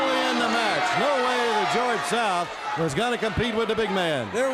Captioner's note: bell ringing